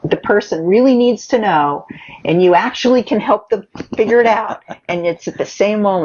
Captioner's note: laughs